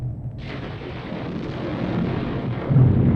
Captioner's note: thunder clap